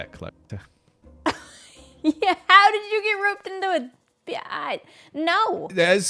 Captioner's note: laughs